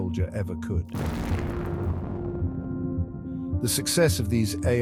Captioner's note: explosion booms